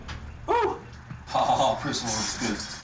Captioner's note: chuckling